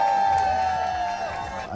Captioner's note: cheering